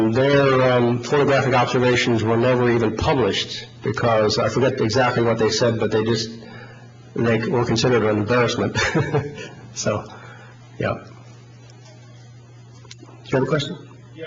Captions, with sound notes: their photographic observations were never even published, because, I forget exactly what they said, but they were considered an embarrassment. (laughs) So, yeah. Do you have a question?